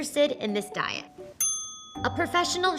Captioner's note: bell dinging